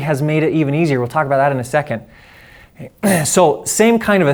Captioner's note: clears throat